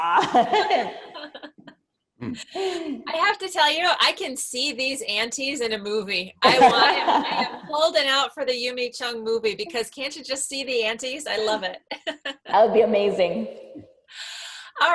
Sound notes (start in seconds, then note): 0.1 laughing; 11.4 laughing